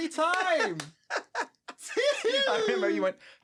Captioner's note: both laughing